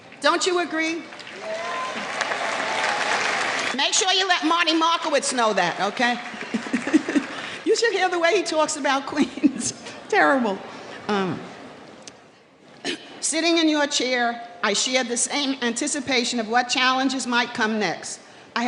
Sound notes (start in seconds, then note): 1.0 applause; 6.3 laughing